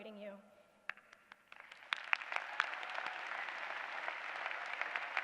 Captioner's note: applause